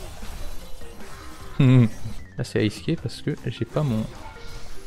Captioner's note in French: Rire